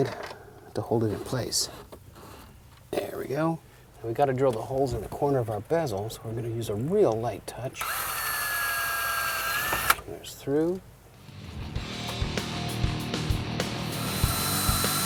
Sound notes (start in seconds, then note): 7.8 drill